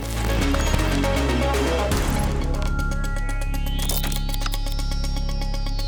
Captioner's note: lively music; logo bleeps and buzzes; eerie music